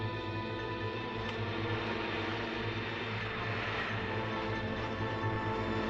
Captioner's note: car engine rumbling